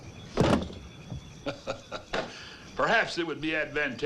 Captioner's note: gun thuds; Hezekiah laughs